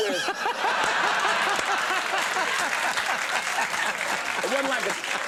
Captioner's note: Conan and audience laughing